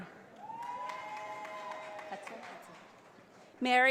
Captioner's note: audience applauding